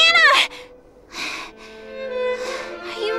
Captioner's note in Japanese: アッコの荒い息